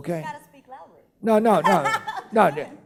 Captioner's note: laughing